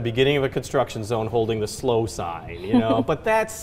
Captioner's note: laughs